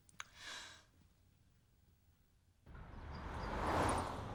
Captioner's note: sighs